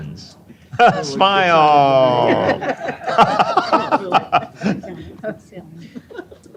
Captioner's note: laughter